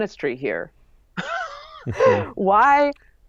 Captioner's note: laughs